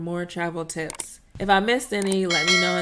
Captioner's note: bell rings